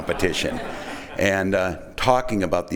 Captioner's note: laughing